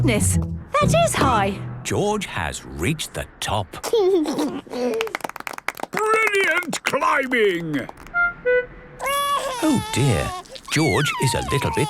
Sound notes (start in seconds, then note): 4.8 George giggles; 4.8 clapping; 9.0 crying